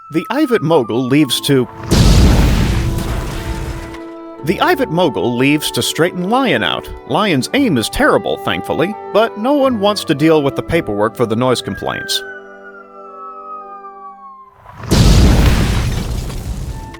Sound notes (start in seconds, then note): 1.6 kaboom; 12.5 incoming whistle; 14.6 kaboom